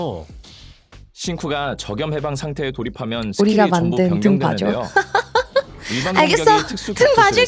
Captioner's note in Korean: 웃음